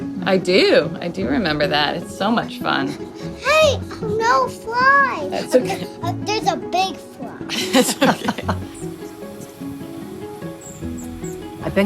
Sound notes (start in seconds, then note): 7.4 chuckling; 9.4 gentle music